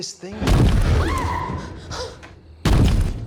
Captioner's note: banging